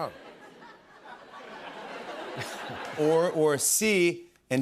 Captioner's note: laughter